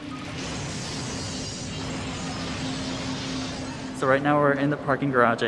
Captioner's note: house exploding